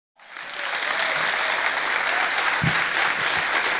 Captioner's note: applauding